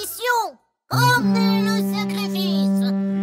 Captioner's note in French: coup de trompe